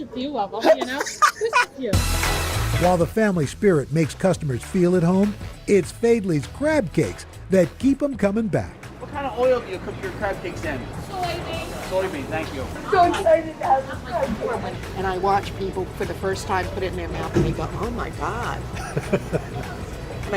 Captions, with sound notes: - It's just a few of them, you know? (laughter) - While the family spirit makes customers feel at home, it's Faidley's crab cakes that keep them coming back. - What kind of oil do you cook your crab cakes in? - Soy bean. - Soy bean. Thank you. - And I watch people for the first time put it in their mouth and they go, oh, my God.